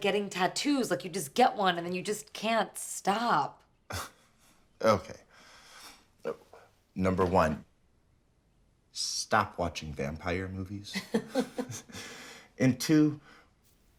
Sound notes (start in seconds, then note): 3.9 laughs; 10.9 Maya laughs